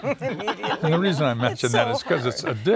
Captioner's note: laughter